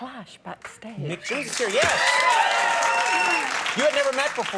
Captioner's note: audience cheering